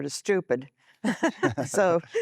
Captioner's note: laughter